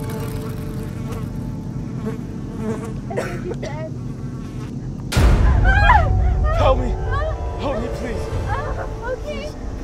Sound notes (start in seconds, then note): 2.8 Heather coughs; 4.9 suspenseful music